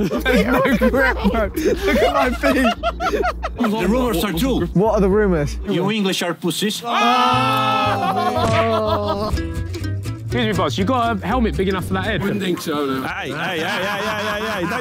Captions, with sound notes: [Sidemen laughing] They've no grip. Look at my feet! [laughing] - The rumours are true. - What are the rumours? - You English are pussies. [Sidemen aahing and laughing] [head smacking] [upbeat music begins] - Excuse me, boss, you got a helmet big enough for that head? - Wouldn't think so, no. - Hey, hey, hey, hey, hey, hey, hey,